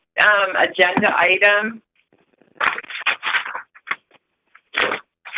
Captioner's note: sound of paper rustling